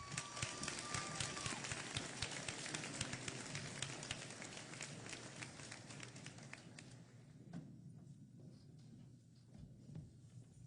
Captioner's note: applause